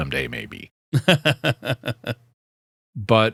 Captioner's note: laughing